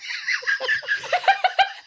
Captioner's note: laughs